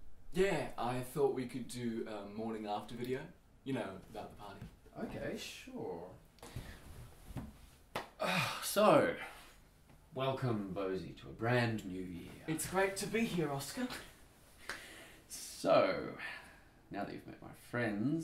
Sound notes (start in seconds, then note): 8.2 sighs